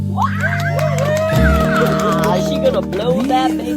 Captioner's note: claps and cheers